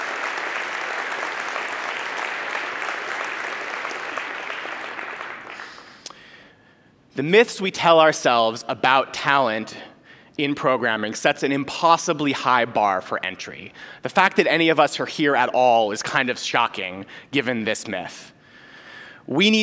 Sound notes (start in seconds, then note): 0.0 applause